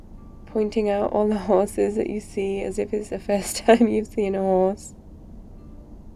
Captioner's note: laughs